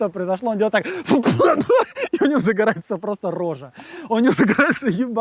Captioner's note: spits, chokes